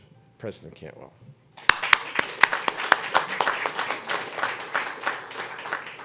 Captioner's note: applause